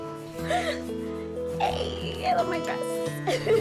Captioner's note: gasps; both laughing